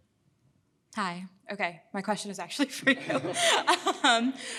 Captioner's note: laughs